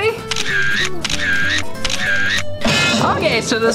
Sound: camera Clicks

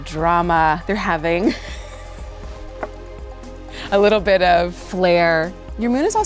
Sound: laughs

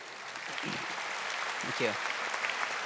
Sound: audience applauding

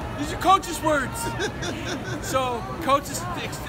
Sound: laughing

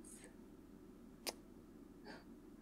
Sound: kiss

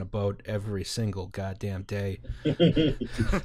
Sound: laughter

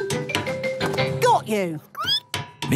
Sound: squeaking

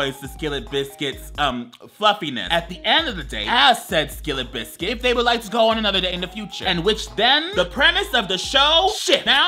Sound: none

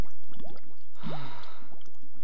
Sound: bill sighs

